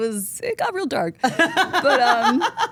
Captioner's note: Steph laughs